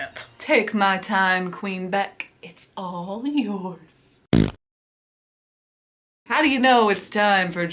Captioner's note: fart noise